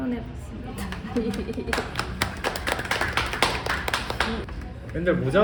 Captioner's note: clap clap clap